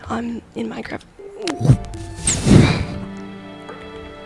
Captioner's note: shocked sound effect